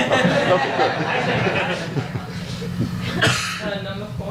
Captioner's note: audience laughs